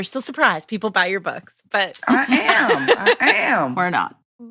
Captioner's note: laughter